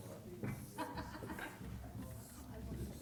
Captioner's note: laughter